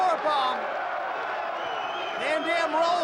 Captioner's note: crowd cheering